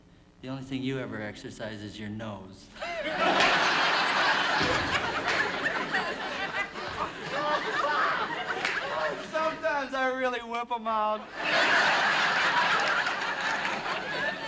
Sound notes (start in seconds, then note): 2.8 laughter; 11.2 laughter